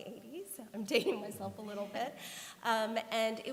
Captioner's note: laughter